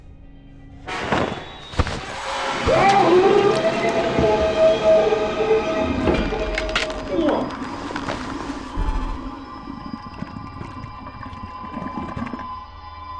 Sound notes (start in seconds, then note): 0.8 suspenseful music; 2.9 Mick gurgling; 6.5 bones cracking